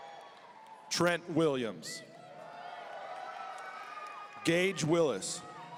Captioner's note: audience cheering; audience cheering